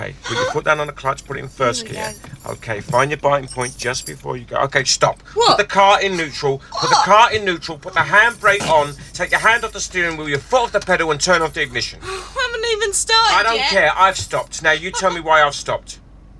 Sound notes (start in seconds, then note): 0.2 laughs; 5.5 shouting; 12.3 laughingly; 13.2 shouting